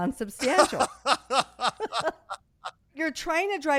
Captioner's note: laughing